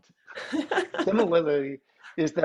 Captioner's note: laughs